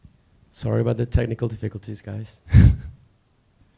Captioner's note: chuckles